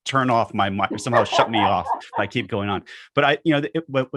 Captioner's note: laughs